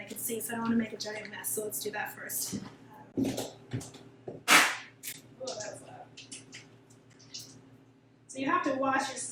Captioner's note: pop